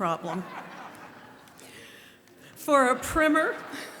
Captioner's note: laughter